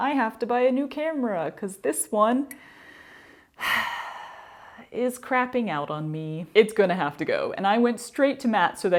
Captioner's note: dramatic sigh